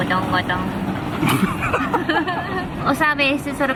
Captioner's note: general laughing